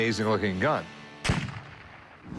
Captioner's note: gunshot